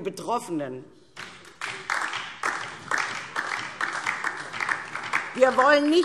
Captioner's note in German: Beifall DIE LINKE